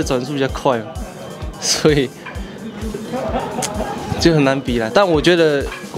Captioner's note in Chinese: 苦笑